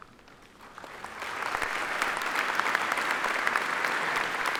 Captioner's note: audience applauding